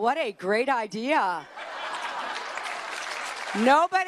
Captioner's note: cheers and applause